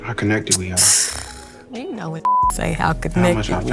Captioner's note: snorts